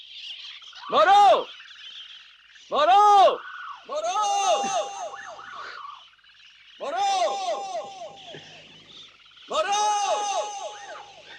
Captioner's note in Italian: urlo